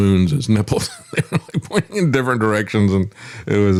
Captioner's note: laughs